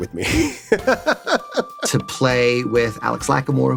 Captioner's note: laughs